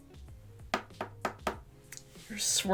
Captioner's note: brush tapping